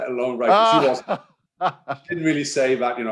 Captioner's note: laughing